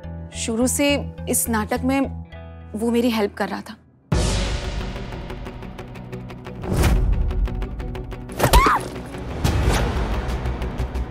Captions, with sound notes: He'd been helping me in this drama since the start. [screaming]